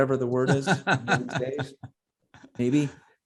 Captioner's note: laughs